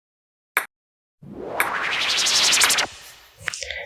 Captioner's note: teleportation Whisper